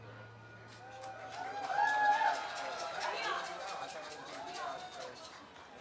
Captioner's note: cheers and applause